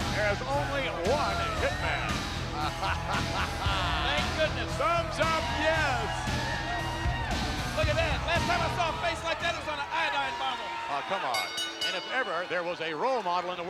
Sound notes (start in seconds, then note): 2.4 chuckling; 6.5 attendees cheering; 6.5 upbeat music; 11.0 bell ringing